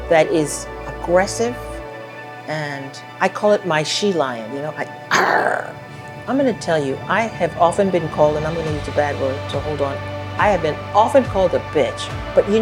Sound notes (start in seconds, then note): 5.0 roars